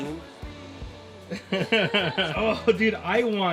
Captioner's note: laughing